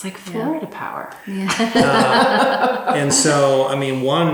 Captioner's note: laughs